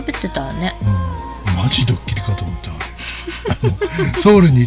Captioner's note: laughs